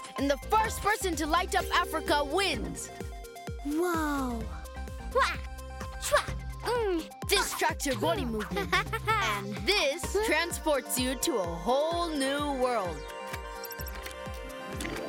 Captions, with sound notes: and the first person to light up Africa wins. - Wow! Wah! Wah! Mm! - This tracks your body movement. And this transports you to a whole new world. (chiming)